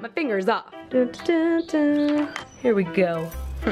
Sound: humming

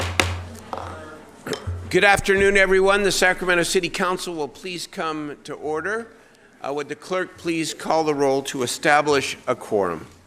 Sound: gavel pounding

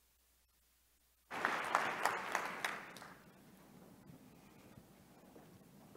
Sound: applause

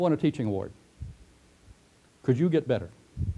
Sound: pause

